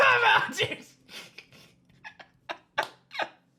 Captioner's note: chuckles